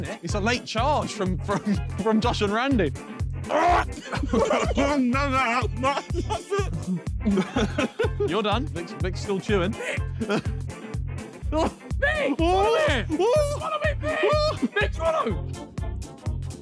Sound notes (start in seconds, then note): 3.5 gagging